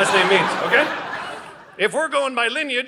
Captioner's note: audience laughing